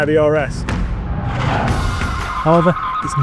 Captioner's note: vehicle revs